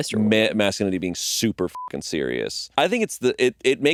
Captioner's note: beeping